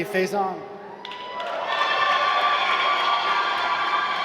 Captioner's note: applause